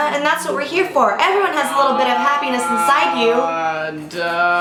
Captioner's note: groaning the the background